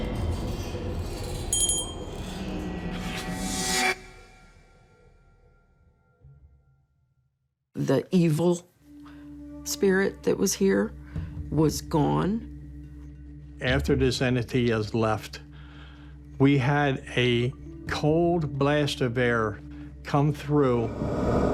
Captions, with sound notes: (Bell ringing) The evil spirit that was here was gone. After this entity has left, we had a cold blast of air come through.